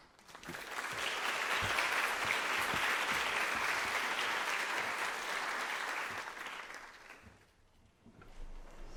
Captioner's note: applause